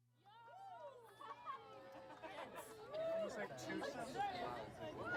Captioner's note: crowd chattering indistinctly